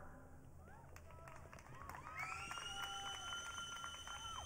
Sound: audience cheering

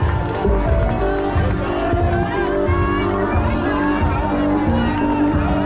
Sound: people yelling; bell ringing

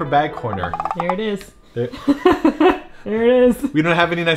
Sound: laughing

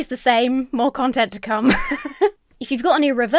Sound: laughs

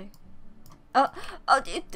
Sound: gasp

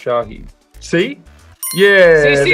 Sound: bell dinging

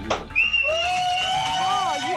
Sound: applause and cheering

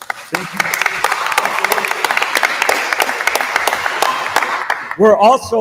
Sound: attendees applauding

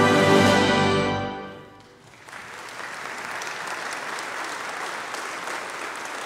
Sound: congregation applauding

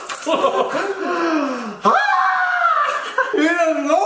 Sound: quick shout; inarticulate screaming

